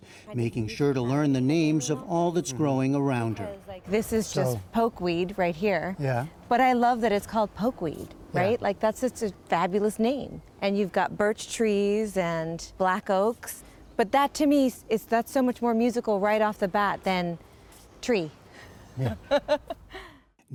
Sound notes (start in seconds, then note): 18.9 laughter